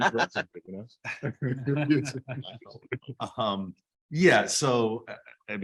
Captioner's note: background chatter